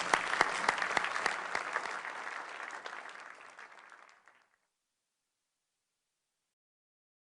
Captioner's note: applause